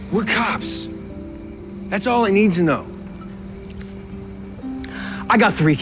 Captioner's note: none